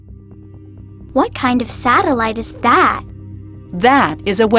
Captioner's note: voiceover